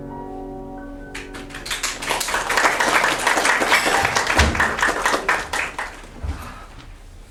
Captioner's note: applause